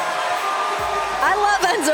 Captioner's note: cheers & applause